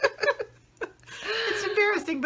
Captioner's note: laughing